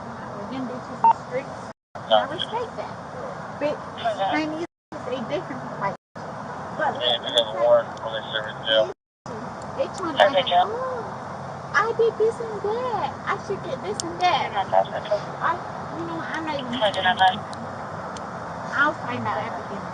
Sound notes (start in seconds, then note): 6.8 radio chatter; 13.6 radio chatter